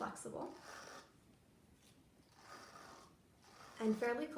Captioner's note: sound of finger running over brush teeth